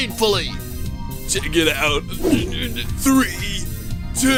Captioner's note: giggling